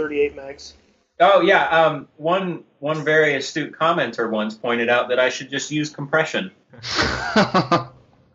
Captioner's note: sarcastically; interviewer laughs